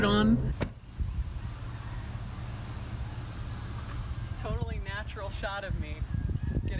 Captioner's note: wind blowing; truck door slams